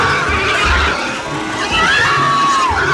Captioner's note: girl screaming